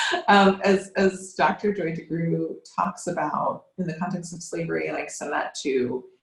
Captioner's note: laughs